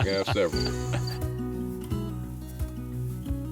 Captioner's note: laughing